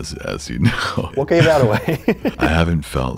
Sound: laughter

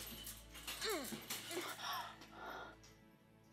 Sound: grunting

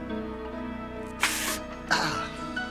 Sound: gasp

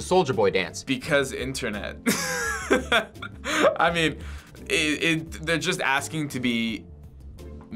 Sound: laughs

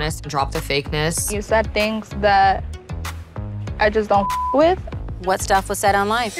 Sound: beep

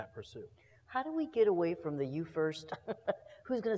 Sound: laugh

